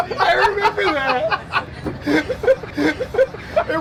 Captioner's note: laughing